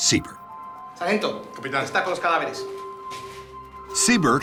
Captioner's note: speaking spanish